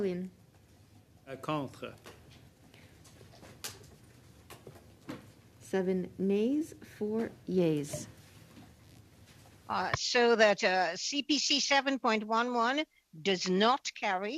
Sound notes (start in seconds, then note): 9.7 speaking French